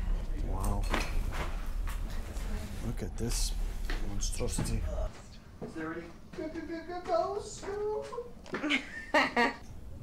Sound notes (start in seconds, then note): 6.4 as Shaggy; 8.5 laughter